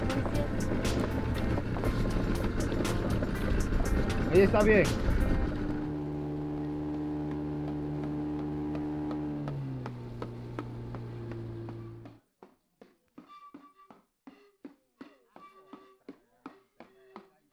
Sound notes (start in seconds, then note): 0.8 boat engine idling; 4.4 speaking spanish; 6.3 boat engine running; 12.3 drums beating; 12.3 wind instrument playing